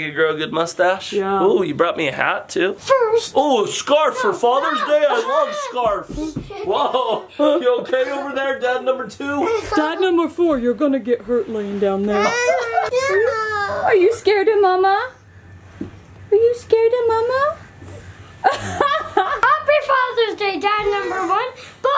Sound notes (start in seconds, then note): 13.2 whining; 18.4 laughing